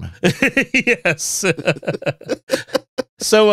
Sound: laughter

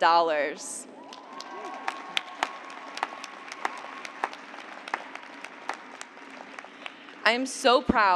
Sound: cheers and applause

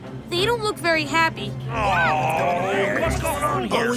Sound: grumbling

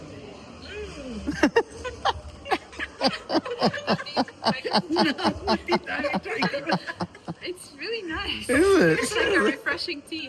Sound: loud laughter

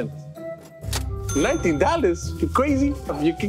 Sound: cash register dings

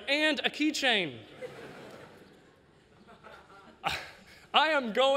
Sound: laughter

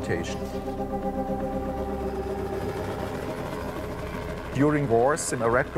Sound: dramatic music; helicopters passing

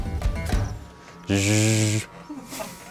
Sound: human made whirring noise

